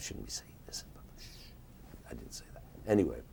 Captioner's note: shhing